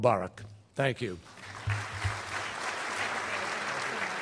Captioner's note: applause